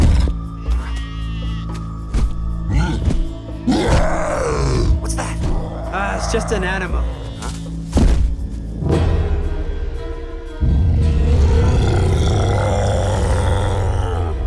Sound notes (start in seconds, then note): 0.0 creature snorts; 0.7 goats bleating; 3.6 creature roars; 10.6 creature growling